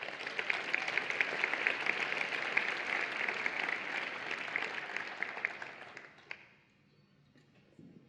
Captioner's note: applause and Cheering